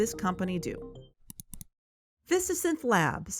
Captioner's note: music stops; clicks